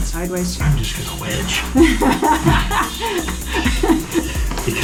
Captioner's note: laughter